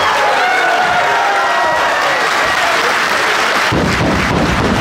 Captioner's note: audience cheering